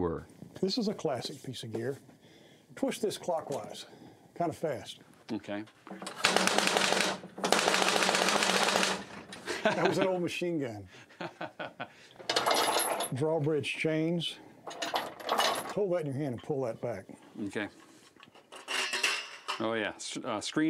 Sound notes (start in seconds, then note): 6.2 flapping; 9.4 laughing; 12.2 rattling; 18.3 metallic creaking